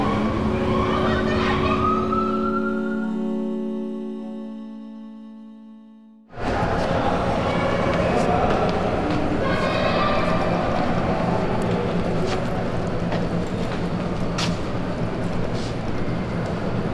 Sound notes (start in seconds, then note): 0.0 police sirens; 6.2 loud subway noise